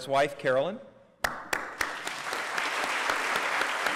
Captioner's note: applause